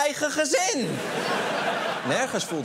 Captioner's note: laughter